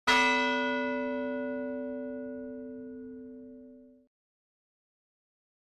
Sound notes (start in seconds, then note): 0.0 bell ringing